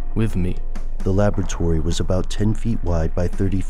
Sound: voiceover

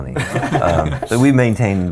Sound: laughs loudly

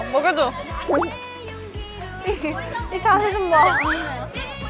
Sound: gulp

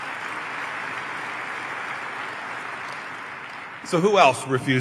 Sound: applause

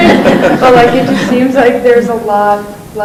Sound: laughing

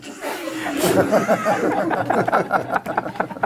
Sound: laughing

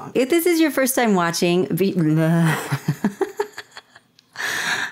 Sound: laughter

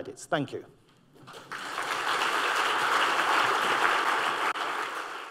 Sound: applause

